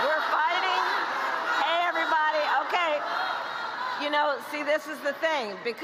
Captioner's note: chanting kamala